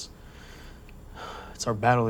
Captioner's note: sigh